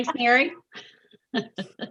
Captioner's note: laughing